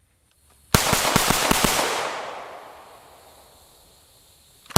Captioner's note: rapid gunfire